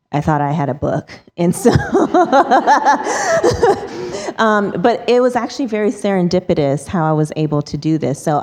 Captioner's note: laughs